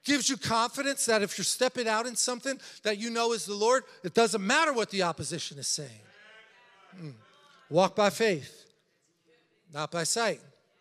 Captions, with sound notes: gives you confidence that if you're stepping out in something, that you know is the Lord, it doesn't matter what the opposition is saying. (congregation chattering) Walk by faith, not by sight.